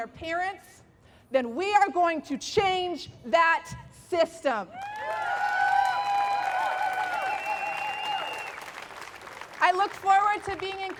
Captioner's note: applause!